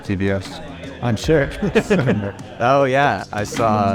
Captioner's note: laughs